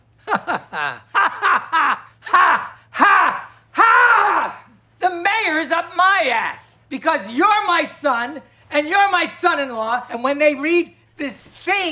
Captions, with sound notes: - [laughs sarcastically] [laughs angrily] The mayor's up my ass! Because you're my son and you're my son-in-law, and when they read this thing,